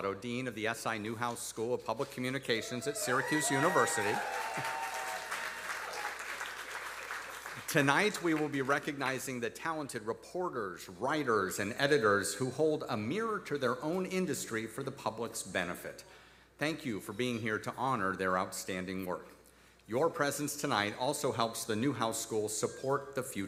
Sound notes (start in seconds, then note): 4.8 audience applauding; 4.8 audience cheering